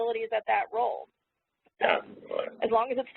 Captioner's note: audio glitch